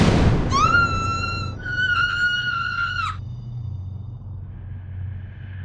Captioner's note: screams